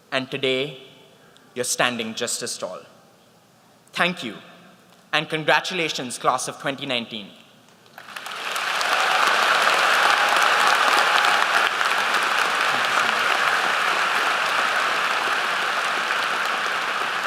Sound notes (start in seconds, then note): 8.4 applause